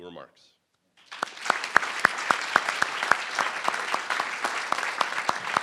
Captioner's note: crowd applauding